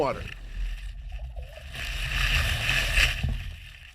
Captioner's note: water sloshing